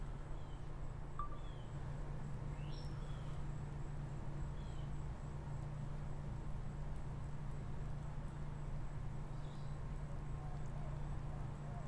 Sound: birds chirping, wind, natural sounds

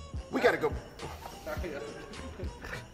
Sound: scoffing

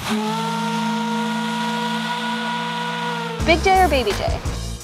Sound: loud steam whistle

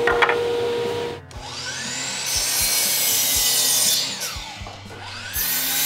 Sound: saw machine noise

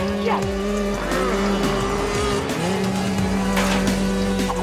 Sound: engines revving

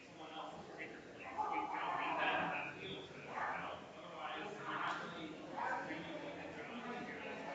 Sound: people chattering distantly continues

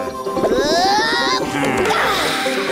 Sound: grunting

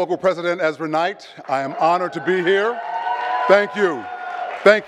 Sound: audience claps and cheers

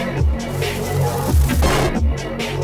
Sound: static

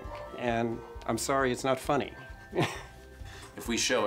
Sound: снuсklеs

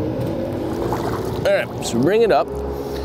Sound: water splashing

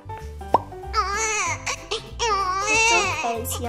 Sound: crying

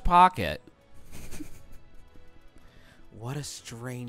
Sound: snickering

